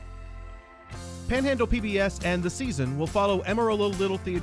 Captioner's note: voiceover